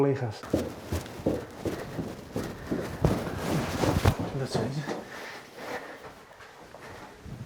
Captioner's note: stair Descending Sounds; walking Sounds